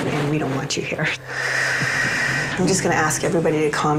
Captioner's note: exhales deeply